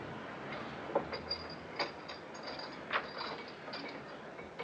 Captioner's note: clanking